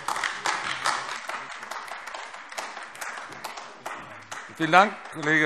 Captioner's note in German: Beifall AfD